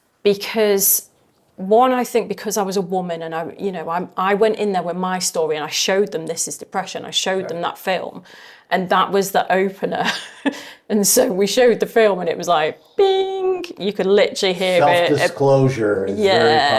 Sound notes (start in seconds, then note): 10.0 chuckling